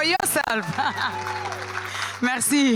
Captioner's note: applause